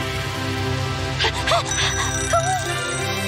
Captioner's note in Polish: dzwonek czasomierza